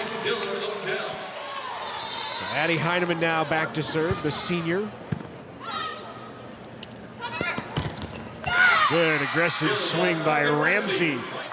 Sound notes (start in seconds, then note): 7.3 ball thumping; 8.5 audience cheering